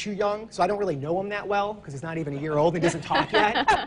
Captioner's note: laughs